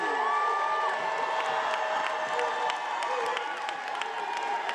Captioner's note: attendees cheering